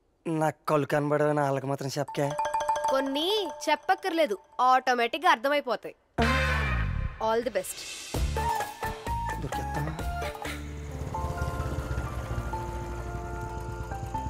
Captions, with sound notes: Don't tell those people that I can't see. I don't have to tell them. They will understand on their own. All the best. Oh God. (Bike approaching)